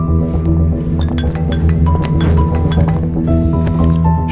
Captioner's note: mobile rings